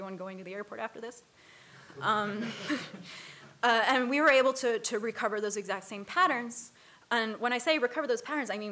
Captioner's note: laughter